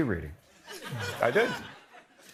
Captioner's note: laughter